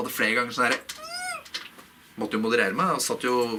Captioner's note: shrieking